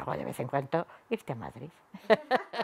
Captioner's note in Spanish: risas